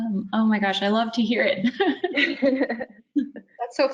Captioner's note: chuckles